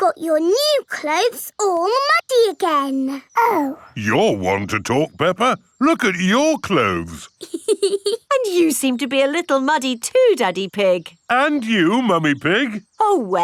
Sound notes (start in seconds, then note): 5.9 laughs